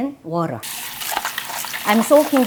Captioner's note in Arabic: صنبور المياه الجارية